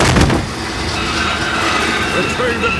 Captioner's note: thud